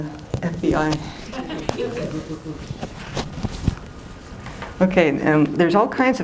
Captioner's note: laughter